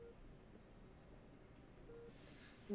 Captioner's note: none